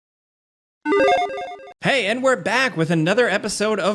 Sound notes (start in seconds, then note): 0.8 logo beeps